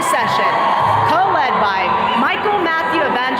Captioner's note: attendees cheering